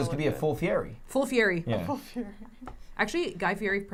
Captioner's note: laughs